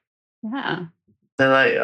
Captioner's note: laughs